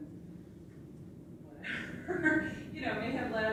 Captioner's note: laughs